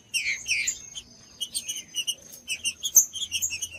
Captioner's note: trinca ferro cantando